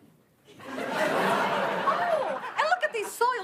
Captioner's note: audience laughing